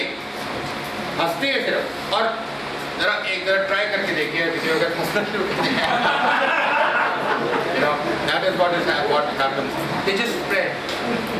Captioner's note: big laughter